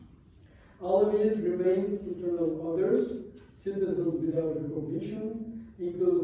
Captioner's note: non-english